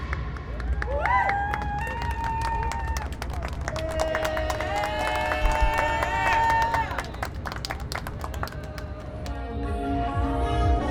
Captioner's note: crowd cheering